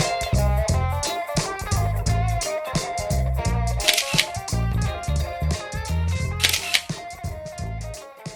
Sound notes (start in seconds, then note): 4.2 camera shutter clicking